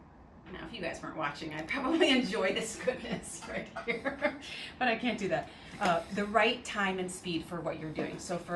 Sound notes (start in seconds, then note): 2.7 chuckling